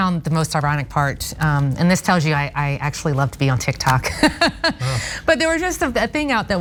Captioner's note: laugh